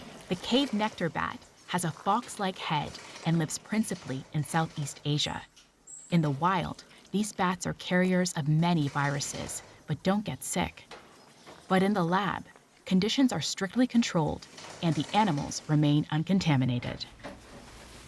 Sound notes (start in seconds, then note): none